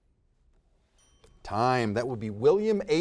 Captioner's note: bell dings